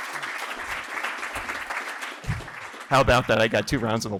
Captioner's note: applause